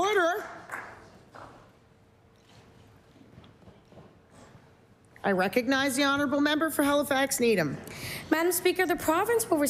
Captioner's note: applause